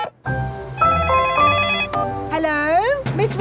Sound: beeping; phone ringing

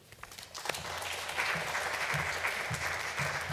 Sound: applause

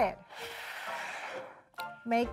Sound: chicken sliding

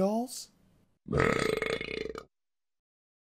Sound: sound effect of a loud burp is heard

